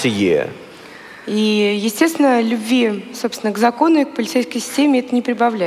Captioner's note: foreign Language